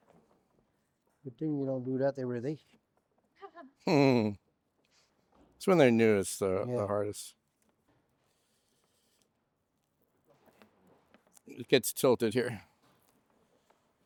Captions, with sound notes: Good thing we don't do that every day. [sniggering] It's when they're newest, the hardest. It gets tilted here.